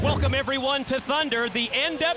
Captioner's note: crowd cheering